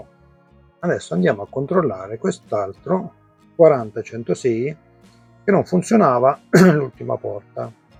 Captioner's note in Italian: schiarire la voce